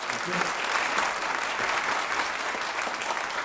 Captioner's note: applause